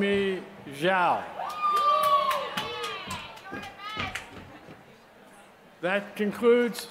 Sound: applause

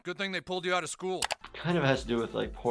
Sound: background mouse clicking

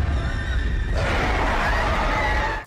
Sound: demon screaming; woman screaming

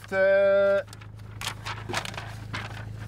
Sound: paper rustling

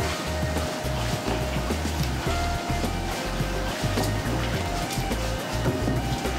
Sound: stirring of fermentation mash

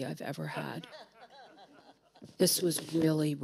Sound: audience chuckling

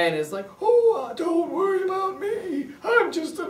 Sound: old man voice

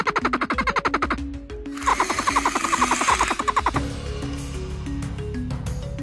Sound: Troodon sounds

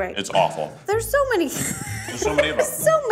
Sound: laughs

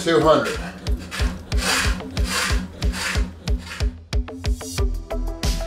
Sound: bike making mechanical noises; electronic music

